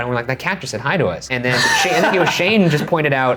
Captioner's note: laughing